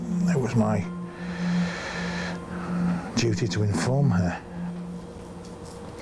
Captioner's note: breathes deeply